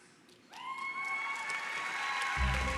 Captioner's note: applause